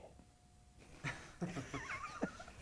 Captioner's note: laughter